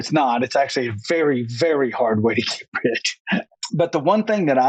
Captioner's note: laughs